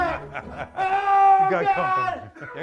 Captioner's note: laughs